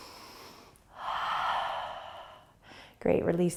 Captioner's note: inhaling; exhaling